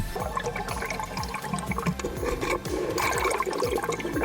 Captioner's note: water gurgling